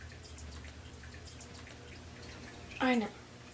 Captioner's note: water running